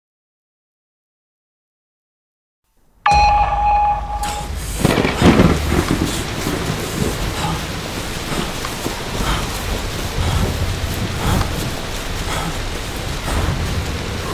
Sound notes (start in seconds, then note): 3.0 sudden eerie sound; 4.8 lightning crackling, heavy rain sounds fading in